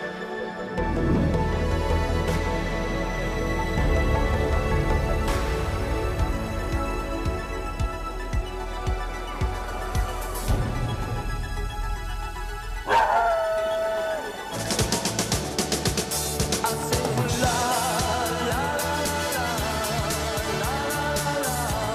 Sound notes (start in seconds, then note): 12.8 dog howling; 14.9 upbeat music